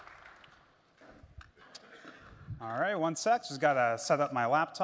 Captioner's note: applause